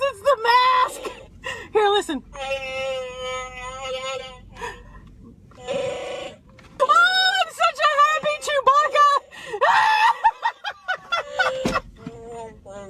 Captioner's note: bahhh-ing noises